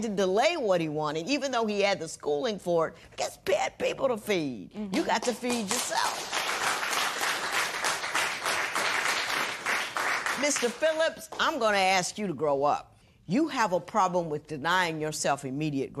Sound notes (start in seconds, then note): 6.9 applause